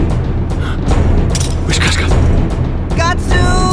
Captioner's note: gasp